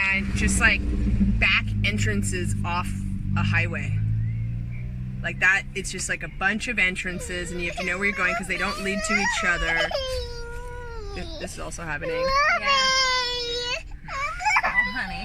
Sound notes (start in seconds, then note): 9.7 crying; 12.1 wailing